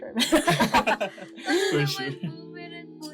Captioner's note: laughs